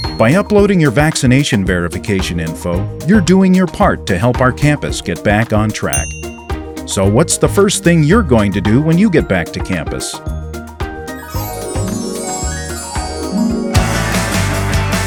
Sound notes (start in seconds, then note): 0.0 bell ring; 5.9 bell ring